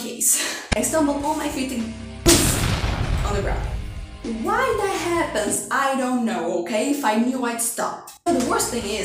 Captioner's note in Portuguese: boom